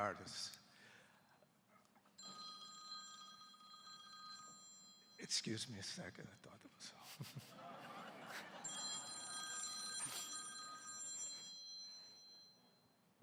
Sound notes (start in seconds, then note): 2.2 phone ringing; 6.8 laughs; 8.5 phone ringing